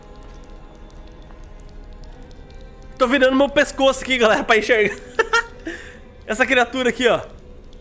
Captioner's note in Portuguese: risos